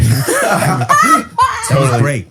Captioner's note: all laughing